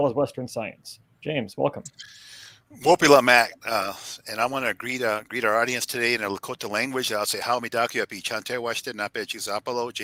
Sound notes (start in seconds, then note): 3.5 speaking lakota; 7.7 speaking lakota